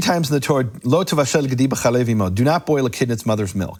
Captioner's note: speaks in foreign language